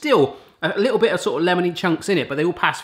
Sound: none

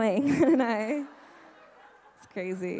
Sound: laughing

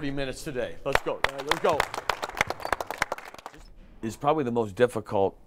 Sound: clapping

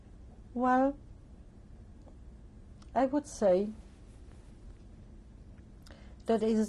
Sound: pauses for 3 seconds

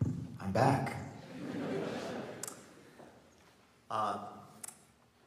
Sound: audience laughs

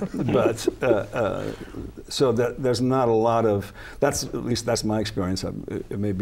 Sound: laughter

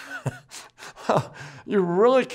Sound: laughs

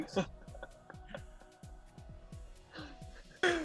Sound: laughing lightly

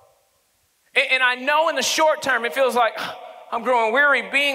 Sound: sighing

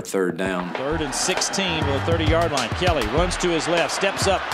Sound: voiceover

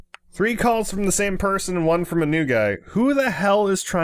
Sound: none

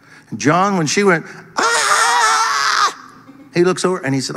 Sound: person screaming

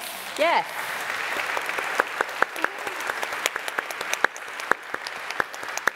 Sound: applause

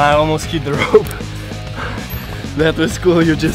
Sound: pants

